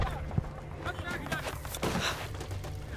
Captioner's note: gunfire